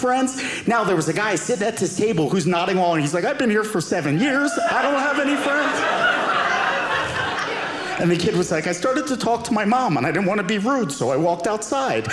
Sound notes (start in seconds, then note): 5.9 audience laughing